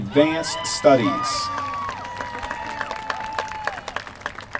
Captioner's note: applause